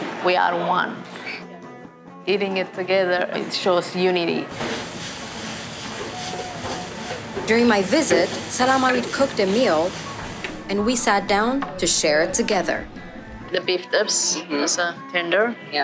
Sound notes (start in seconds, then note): 5.1 food sizzling